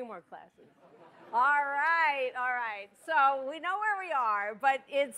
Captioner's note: laughter